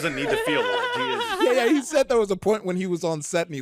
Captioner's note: all laughing